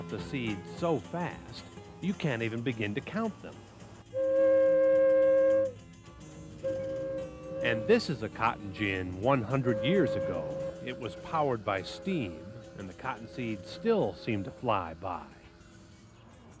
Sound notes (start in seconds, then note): 4.0 whistle